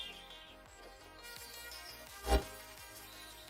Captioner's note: sizzling